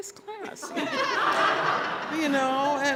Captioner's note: laughter